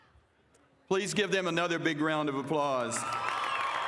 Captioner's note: applause